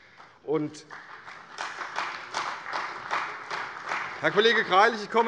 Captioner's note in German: Beifall bei der CDU und dem BÜNDNIS 90/DIE GRÜNEN